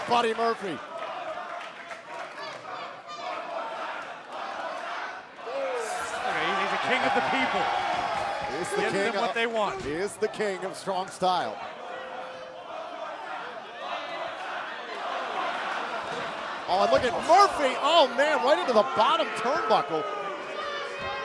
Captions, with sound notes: MURPHY. >> HE IS THE KING OF THE PEOPLE. HE GIVES THEM WHAT THEY WANT. >> HE IS THE KING OF STRONG STYLE. [FANS CHANTING] OH, AND LOOK AT MURPHY. OH, MAN. RIGHT INTO THE BOTTOM TURNBUCKLE.